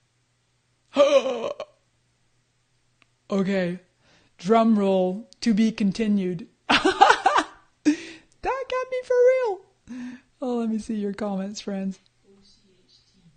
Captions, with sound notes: (gasps) Okay, drum roll, to be continued. (laughs) That got me for real! Oh let me see your comments, friends.